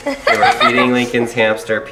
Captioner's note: kids laughs